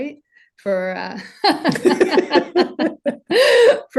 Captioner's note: laughing